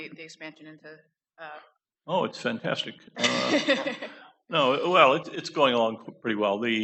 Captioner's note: laughter